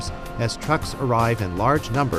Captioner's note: none